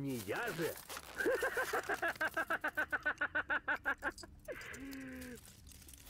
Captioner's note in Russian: истерический смех